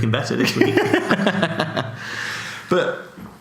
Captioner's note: laughs